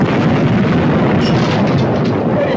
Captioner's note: explosion booming; debris clattering